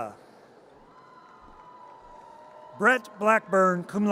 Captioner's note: audience cheers